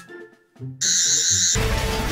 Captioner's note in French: Bruit aigu